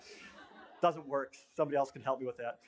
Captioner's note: laughter